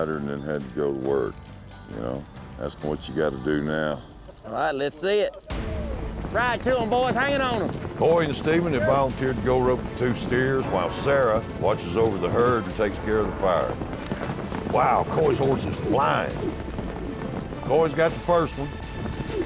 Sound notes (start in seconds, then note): 13.9 fast hoofbeats